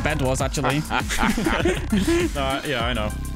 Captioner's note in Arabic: الكل يضحك